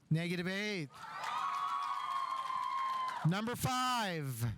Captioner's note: audience applauding; audience cheering